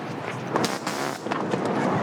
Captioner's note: taser zapping